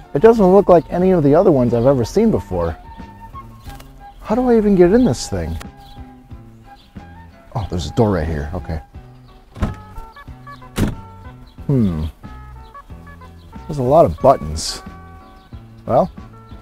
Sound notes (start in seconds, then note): 9.4 door opens; 10.6 door closes